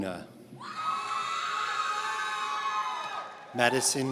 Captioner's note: audience cheering